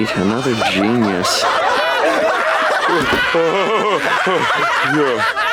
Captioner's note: laughing